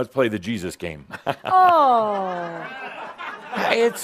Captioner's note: some chuckles